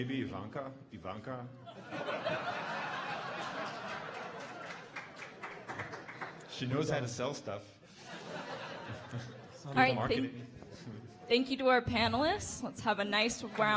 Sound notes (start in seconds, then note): 1.6 audience laughing